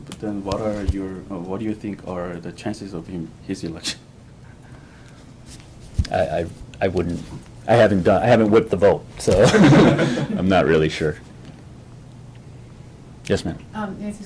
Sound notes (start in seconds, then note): 9.4 laughter